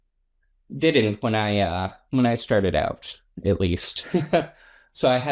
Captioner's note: laughs